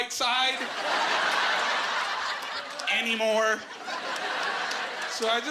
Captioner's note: laughing